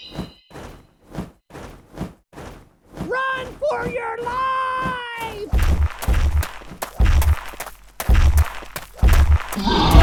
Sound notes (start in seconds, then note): 0.0 erie Silence, Bird Screeches; 4.7 footsteps Running; 5.2 monster Big Footsteps; 9.6 roar